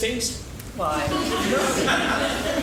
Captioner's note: laughing